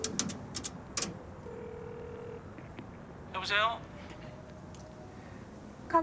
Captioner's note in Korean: 통화 연결음